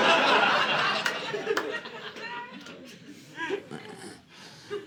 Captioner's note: audience laughing